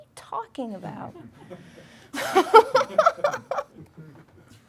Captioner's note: laughing